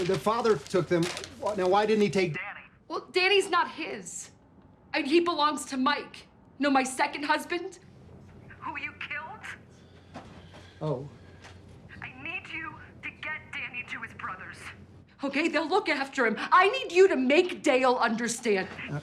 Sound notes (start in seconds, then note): none